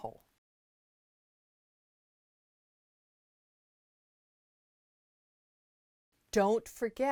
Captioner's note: no Sound Present